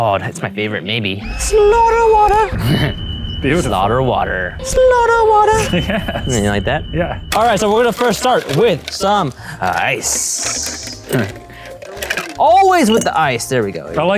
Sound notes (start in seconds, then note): 1.2 screaming; 2.8 laughs; 5.6 laughs